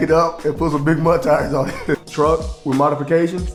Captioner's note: laughs